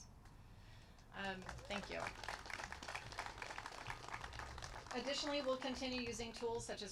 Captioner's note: applause